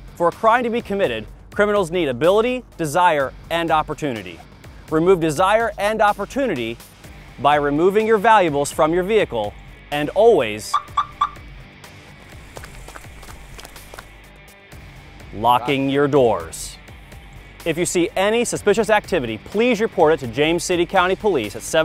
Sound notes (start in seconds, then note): 10.7 car alarm sound